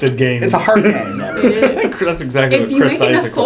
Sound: laugh

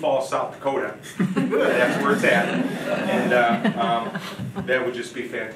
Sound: audience laughing

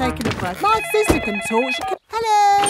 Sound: cellphone ringing

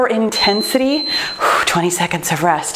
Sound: timer beeps

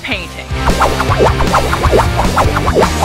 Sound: cartoonish whooshing; rock music

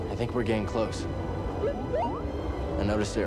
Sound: boop-beep

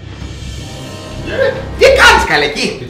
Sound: exclamation

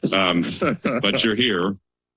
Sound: laughter

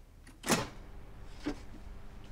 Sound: switch clicks

